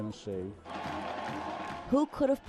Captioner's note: cheering